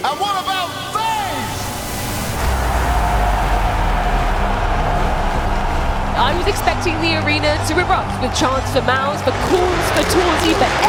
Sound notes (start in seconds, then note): 2.2 crowd cheering